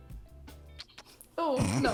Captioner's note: kiss sounds